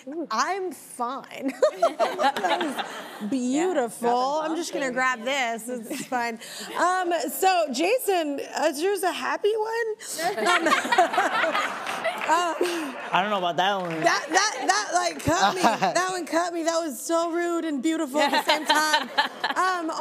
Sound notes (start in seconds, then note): 1.6 laughs; 1.6 audience laughing; 10.2 audience laughing